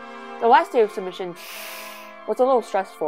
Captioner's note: inhales